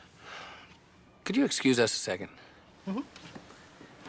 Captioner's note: sighs